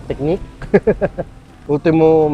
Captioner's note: laughs